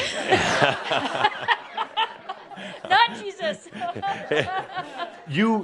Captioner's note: laughter; laughing and wiping her tears